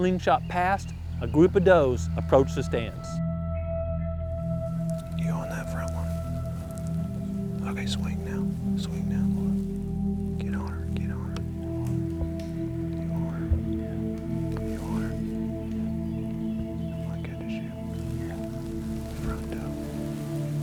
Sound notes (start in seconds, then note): 5.1 whispering